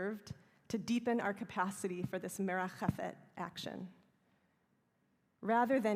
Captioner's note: hebrew